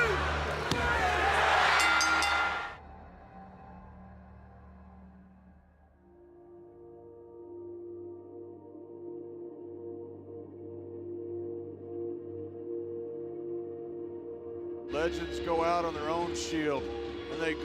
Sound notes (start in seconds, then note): 1.7 bell rings; 1.7 crowd cheering; 6.5 melancholic music